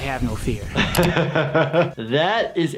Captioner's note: laughs